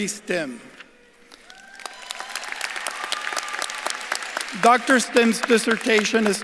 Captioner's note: audience claps and cheers